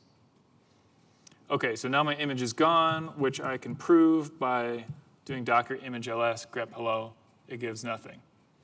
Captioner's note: none